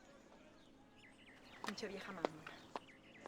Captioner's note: speaks in foreign language